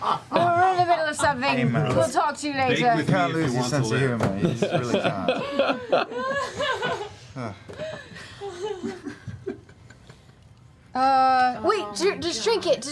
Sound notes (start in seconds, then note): 4.4 laughter